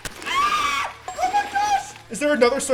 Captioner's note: squealing